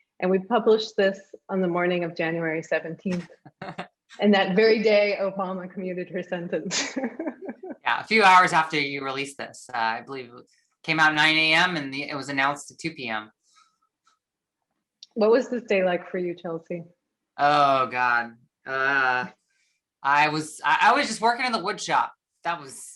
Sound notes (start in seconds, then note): 6.7 chuckles